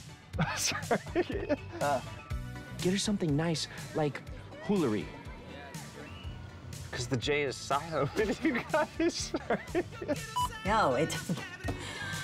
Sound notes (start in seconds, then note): 0.4 laughs; 7.9 laughing; 7.9 laughs; 10.3 screen beeps